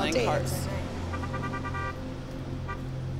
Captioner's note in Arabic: صوت البوق